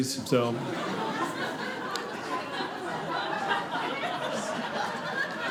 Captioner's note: audience laughing